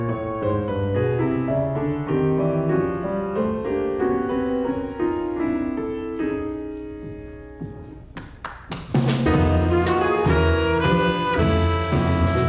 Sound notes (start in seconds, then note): 8.1 clapping; 8.9 smooth jazz music